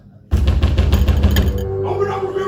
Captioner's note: loud pounding on door